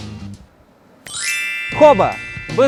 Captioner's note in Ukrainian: магічний звук